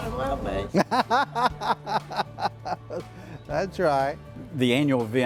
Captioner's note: laughs